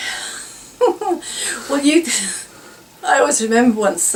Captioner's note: laughs